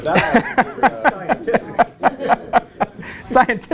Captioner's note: laugh